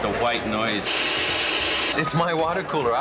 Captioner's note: white noise crackling